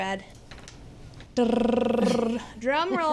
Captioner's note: rolls tongue